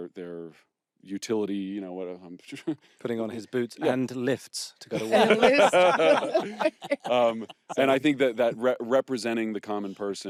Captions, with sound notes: utility, you know what I'm... Putting on his boots and lifts to go to work. (ALL LAUGHING) And I think that representing the common person